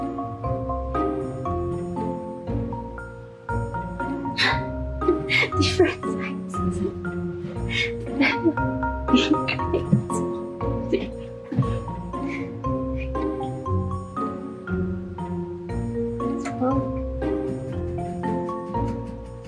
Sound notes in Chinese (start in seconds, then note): 5.1 自己笑瘋; 8.9 笑到無法自拔